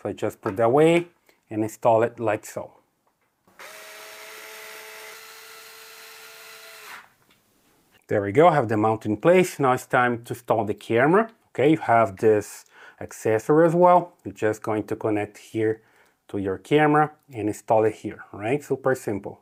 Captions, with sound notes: So I just put that way and install it like so. (drill whirring) There we go, I have the mount in place. Now it's time to install the camera. Okay, you have this accessory as well. You're just going to connect here to your camera and install it here, all right? Super simple.